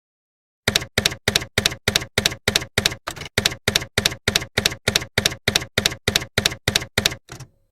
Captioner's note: typewriter keys clacking